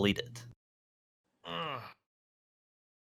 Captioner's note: grunts